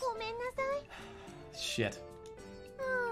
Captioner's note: exhales